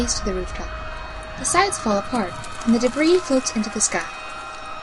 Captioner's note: sound of debris crumbling and rising. Screams continue. Storm Builds